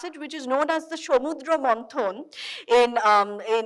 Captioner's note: speaking in foreign language